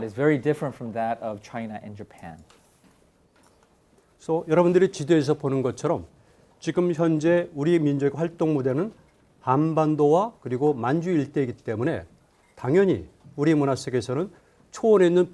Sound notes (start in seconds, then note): 4.4 speaking in Korean